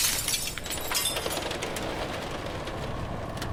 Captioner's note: crashing